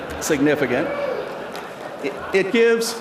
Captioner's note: laughter and cheering